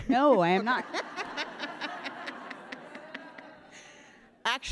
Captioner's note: all laughing